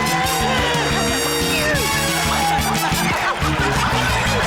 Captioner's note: laughter